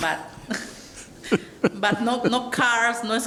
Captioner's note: Caprio laughs